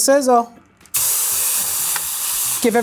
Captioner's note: pan sizzling